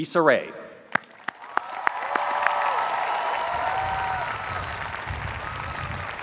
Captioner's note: audience applauds, cheers